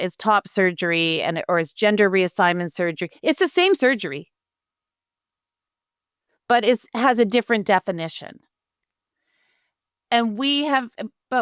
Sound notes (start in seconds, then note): none